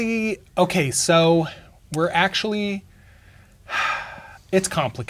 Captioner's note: sighs